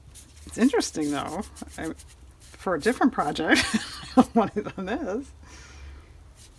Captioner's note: laughs